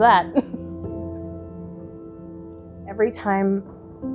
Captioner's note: laughs